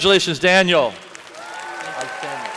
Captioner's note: applause